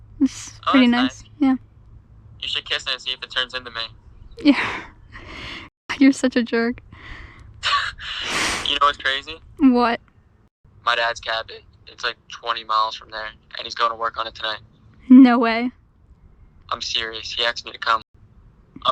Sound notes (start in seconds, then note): 4.4 Mollie laughs; 7.6 both laugh